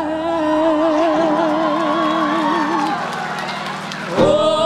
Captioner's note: audience cheers